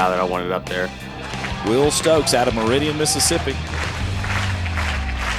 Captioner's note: voiceover